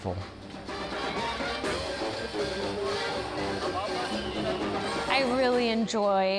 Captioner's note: sounds of the fair